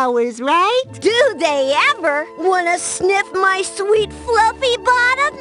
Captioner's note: none